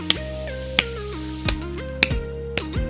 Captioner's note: hammering in anger